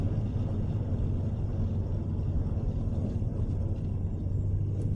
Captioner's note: truck rumbling continues